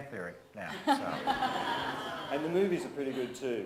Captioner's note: presenter and audience laughs